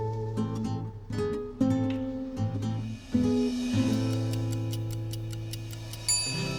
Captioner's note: clock ticking; ding